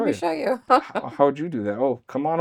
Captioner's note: laughs